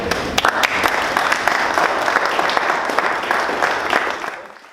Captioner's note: audience applauding